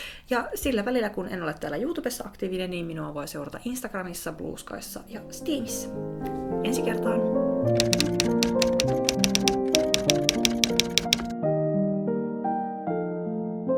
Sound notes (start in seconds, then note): 7.6 typewriter tapping